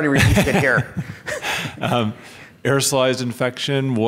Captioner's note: laughs